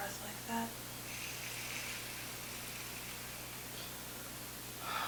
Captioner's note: both breathing deeply